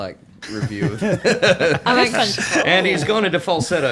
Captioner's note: all laughing